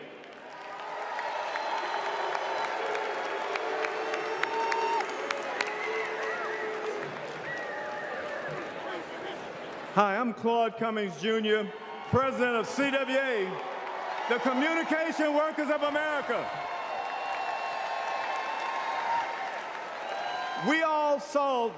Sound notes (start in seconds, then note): 5.2 applause